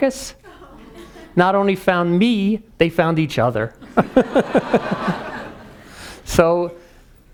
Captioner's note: laughing